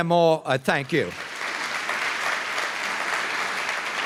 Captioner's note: applause